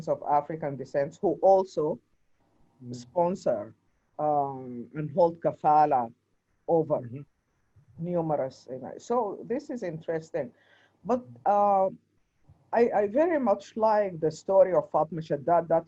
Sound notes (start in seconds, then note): 7.6 speaks faintly; 13.8 speaks foreign language